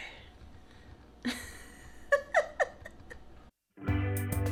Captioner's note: laughs some more; upbeat music